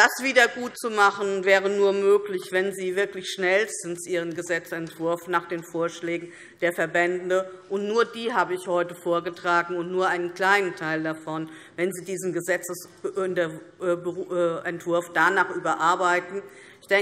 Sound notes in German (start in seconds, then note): none